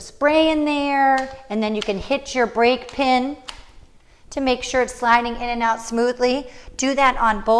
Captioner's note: click noise